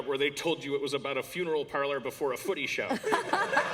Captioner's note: laughter